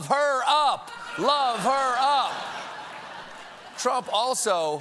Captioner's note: laughter